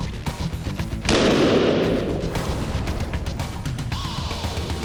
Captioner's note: gunshot